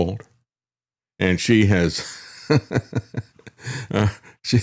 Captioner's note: laughs